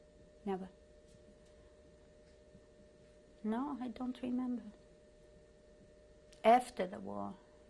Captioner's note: pauses for 3 seconds